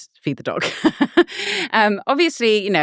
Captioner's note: laughing